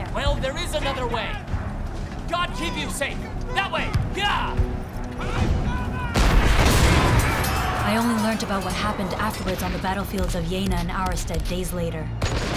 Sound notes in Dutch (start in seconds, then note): 6.1 kanon ontploft